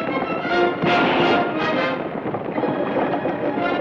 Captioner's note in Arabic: اطلاق نار